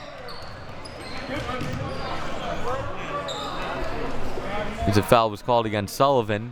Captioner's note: whistle blowing; audience chattering